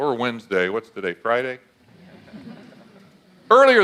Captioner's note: audience laughs